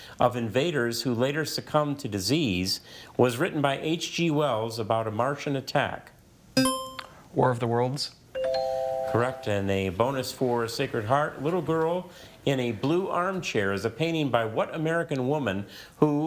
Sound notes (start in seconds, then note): 6.5 buzzer chimes; 6.6 tone chimes